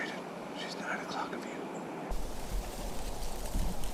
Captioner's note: whispering